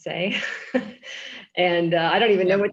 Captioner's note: chuckles